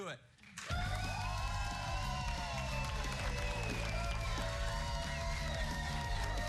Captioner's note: cheers and applause